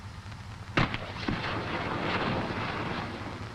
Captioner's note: grenades popping